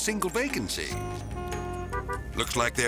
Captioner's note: traffic honking